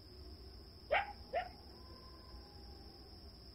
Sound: dog barks; crickets

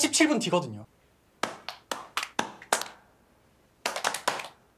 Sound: rhythmic clapping

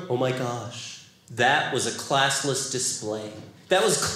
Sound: none

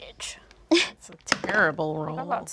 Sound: dice clatter

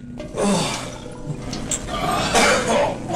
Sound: loud exhale

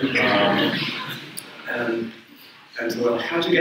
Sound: audience laughs

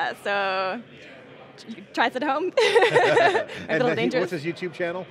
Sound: laughing

